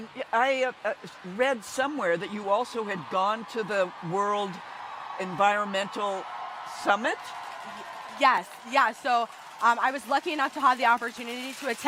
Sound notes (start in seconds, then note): 6.8 crowd cheering distantly